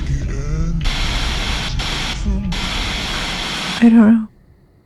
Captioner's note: frenetic TV static